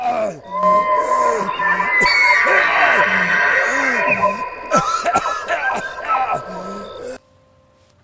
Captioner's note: Wendigo sounds, Man crying in pain; Silence, then VHS playing